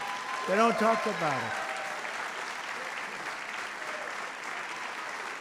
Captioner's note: applause